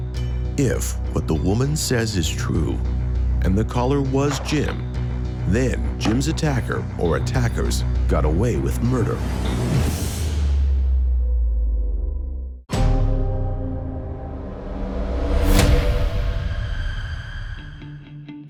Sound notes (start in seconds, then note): 10.1 swooshing; 13.2 eerie music